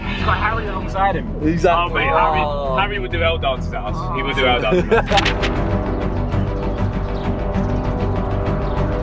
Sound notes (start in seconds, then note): 1.8 team mumbling; 5.1 upbeat music